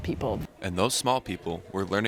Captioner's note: voiceover